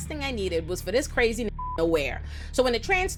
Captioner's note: beep